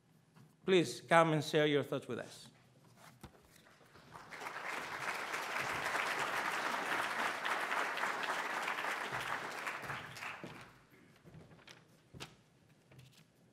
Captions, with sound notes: Please, come and share your thoughts with us. (audience applauds)